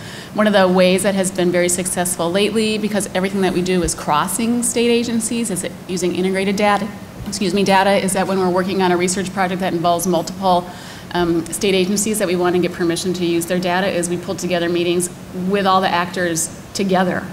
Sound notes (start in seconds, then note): 6.6 bumps microphone